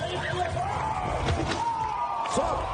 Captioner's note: punch